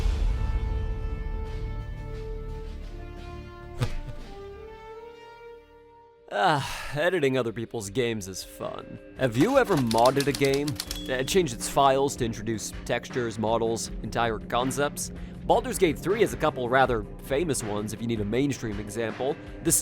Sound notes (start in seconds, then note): 3.8 smack!; 9.3 typewriter SFX